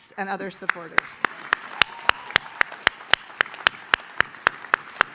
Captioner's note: audience claps